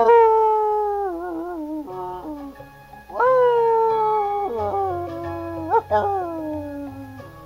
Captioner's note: The sound of a howling dog is heard, overpowering Ichabod